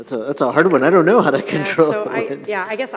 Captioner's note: laughing